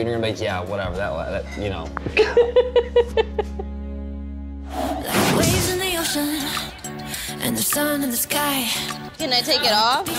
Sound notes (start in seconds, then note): 2.2 laughing; 4.6 upbeat pop music